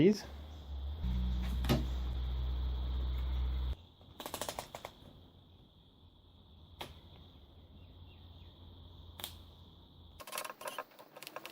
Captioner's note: machine noises